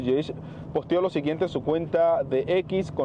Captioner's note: HABLANDO EN INGLéS